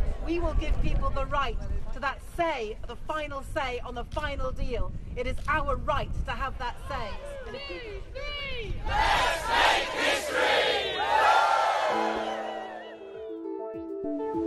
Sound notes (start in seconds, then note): 8.7 crowd; 10.6 all cheer